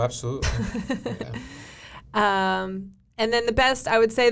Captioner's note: giggles